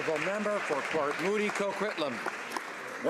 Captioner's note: some Applause